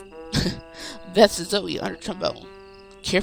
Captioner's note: slightly laughing